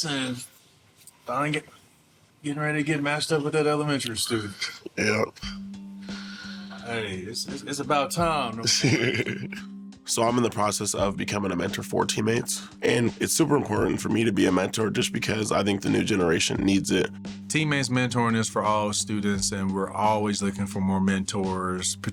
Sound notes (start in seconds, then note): 5.8 light music; 8.6 laughing